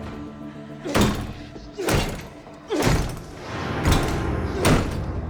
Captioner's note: door lock clanging; Paul groans; dark eerie music